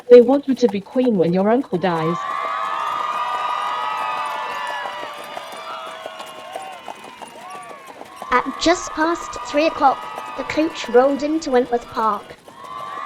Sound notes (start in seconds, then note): 2.8 applause